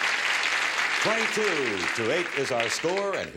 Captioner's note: audience applause